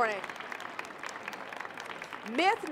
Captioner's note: applause